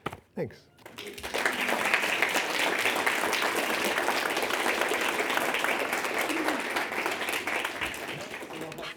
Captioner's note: audience clapping